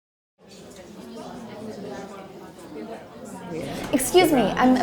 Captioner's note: people chattering